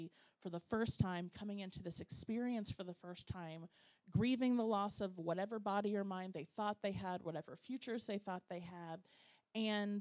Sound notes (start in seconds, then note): none